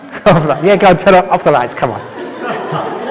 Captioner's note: laughter